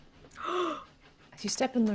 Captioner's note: gasps